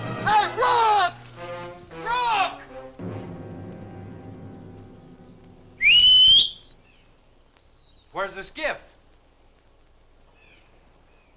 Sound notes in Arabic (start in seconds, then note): 5.8 ثورن يصفر